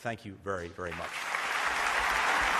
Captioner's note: applause